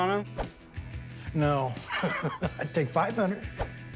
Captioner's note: laughs